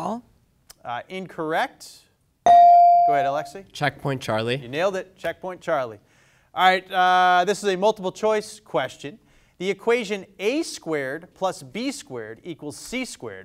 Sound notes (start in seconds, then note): 2.4 bell dings